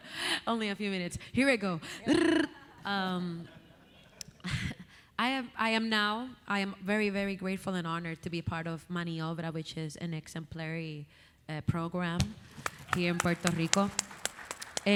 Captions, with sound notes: - Only a few minutes, here we go. Rrrr. (audience laughing) I am now, I am very, very grateful and honored to be part of Mani Obra, which is an exemplary program (audience applauding) here in Puerto Rico.